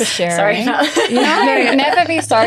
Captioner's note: laughs